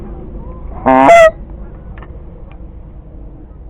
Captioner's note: blowing goose call